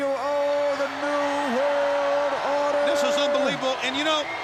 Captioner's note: crowd cheering